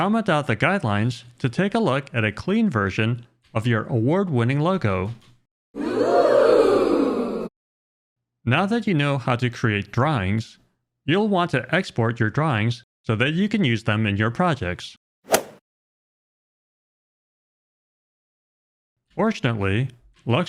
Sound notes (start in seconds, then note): 5.7 crowd saying "ooh!"; 15.2 golf swing sound effect